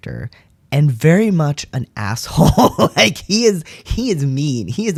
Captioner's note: laugh